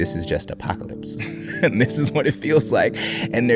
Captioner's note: both chuckling